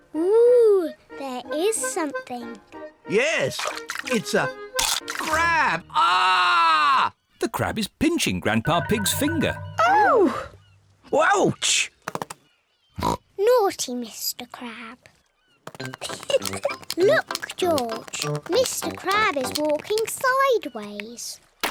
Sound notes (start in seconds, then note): 4.8 crunch; 5.8 screams; 13.0 oinks; 15.9 giggles